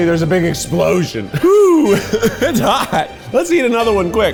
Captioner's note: laughs